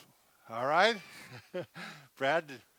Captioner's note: laughing